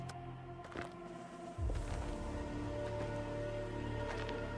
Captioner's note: footsteps crunching